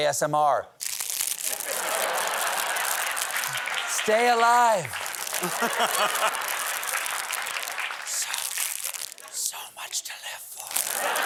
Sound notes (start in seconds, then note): 0.8 crinkling; 4.7 whispering; 4.9 crinkling